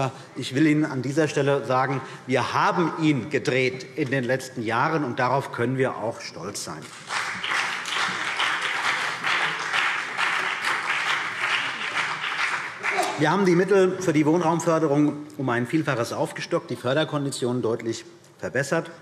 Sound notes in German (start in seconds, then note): 6.9 Beifall CDU und BÜNDNIS 90/DIE GRÜNEN